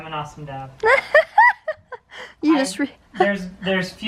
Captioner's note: laughs